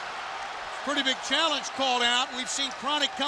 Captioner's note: crowd cheering